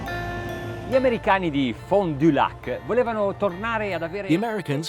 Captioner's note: speaking foreign language